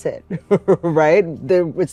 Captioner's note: chuckles